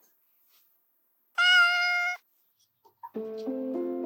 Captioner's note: meow